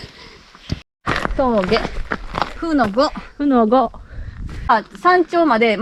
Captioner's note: laughs